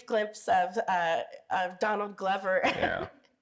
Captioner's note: laughs